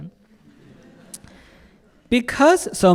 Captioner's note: audience laughing